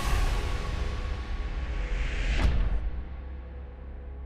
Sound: logo whooshing

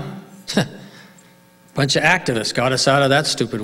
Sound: laughs

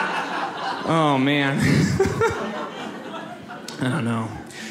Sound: audience laughs; laughs

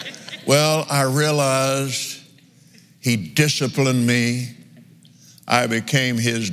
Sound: laughs

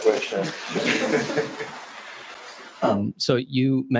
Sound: laughter

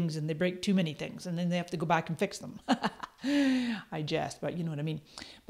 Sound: chuckles

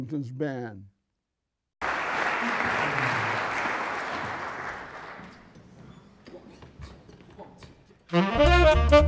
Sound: applause

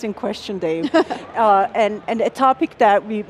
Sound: laughs

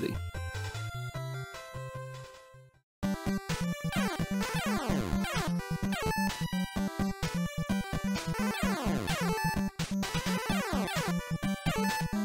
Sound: game sounds

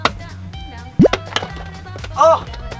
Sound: button clacking; special effects blooping; cake plopping

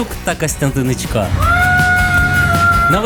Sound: screaming

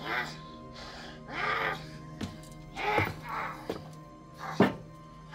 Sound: growling continues

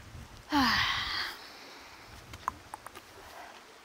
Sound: sighs; water runs

